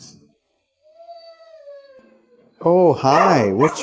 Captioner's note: dog whimpering